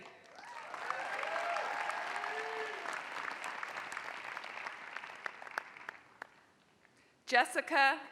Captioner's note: applause